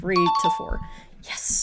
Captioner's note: question dings